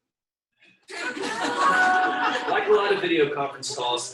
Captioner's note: audience laughing